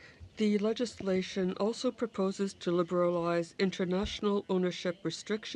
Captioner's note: speaking french